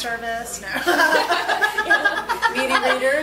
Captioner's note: group laughs